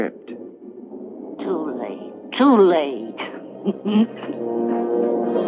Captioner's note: chuckles